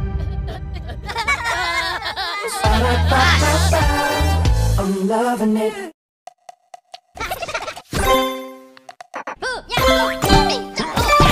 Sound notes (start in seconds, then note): 1.6 Minions Crying; 7.1 Minions Laughing